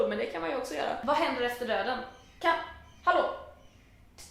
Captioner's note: birds going crazy outside the window